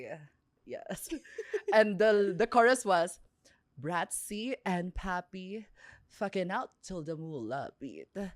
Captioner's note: laughs